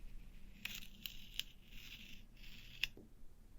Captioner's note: tape peeling